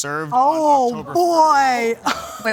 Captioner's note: laughs